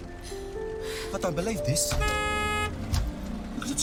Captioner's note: honks horn